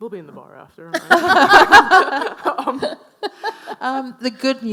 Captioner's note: all laughing